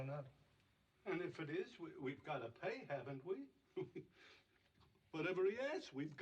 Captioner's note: chuckles